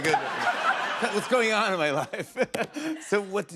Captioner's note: normal voice